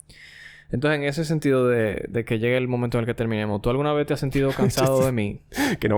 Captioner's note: laughs